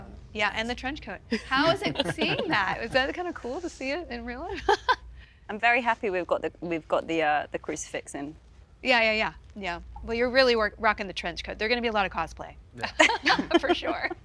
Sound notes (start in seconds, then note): 4.9 chuckles